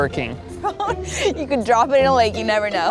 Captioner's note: chuckles